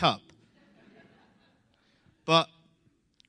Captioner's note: laughter